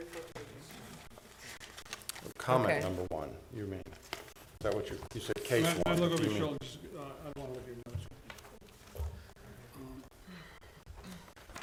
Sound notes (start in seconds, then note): 0.3 board discussing quietly; 6.6 talking quietly